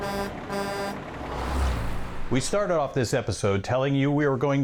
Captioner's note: truck horn